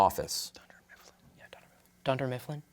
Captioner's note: whispers